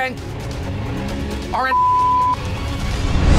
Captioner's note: beep